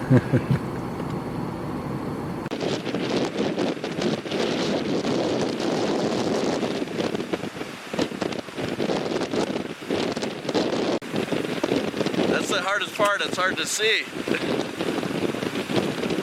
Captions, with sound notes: (interviewer laughing) (wind blowing) - That's the hardest part, it's hard to see.